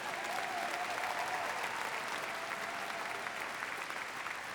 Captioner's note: applause